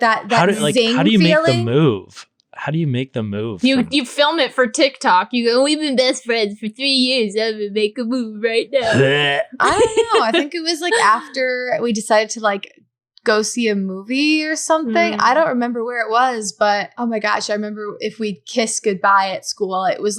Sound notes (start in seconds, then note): 8.8 gagging